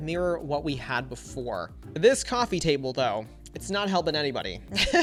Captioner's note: laughs